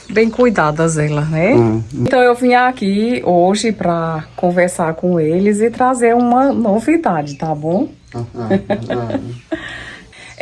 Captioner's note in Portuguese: risadas